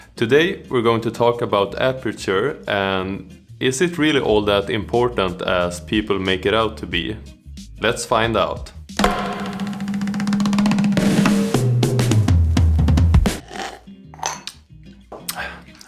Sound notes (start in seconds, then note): 9.0 intro music; 13.3 slurp